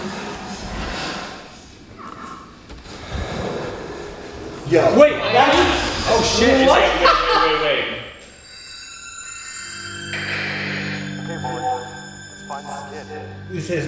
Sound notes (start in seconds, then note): 1.3 creaking; 9.0 ominous music